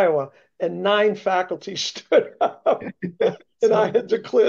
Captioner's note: laughs